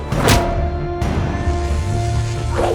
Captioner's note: clang!